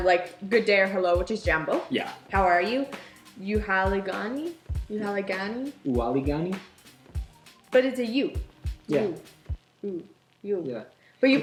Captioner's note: swahili